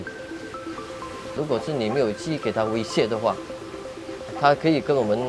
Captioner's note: honey bees